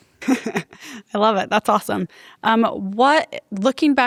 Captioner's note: laughs